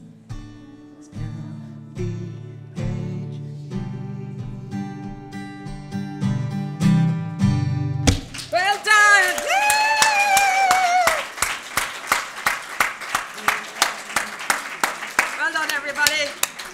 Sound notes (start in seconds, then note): 9.9 cheering; 10.6 applause